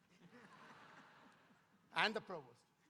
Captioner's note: audience laughing